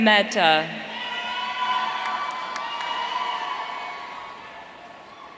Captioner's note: audience cheering